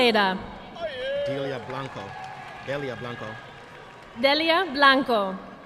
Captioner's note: audience clapping